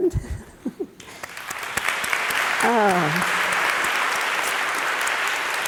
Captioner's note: audience applauding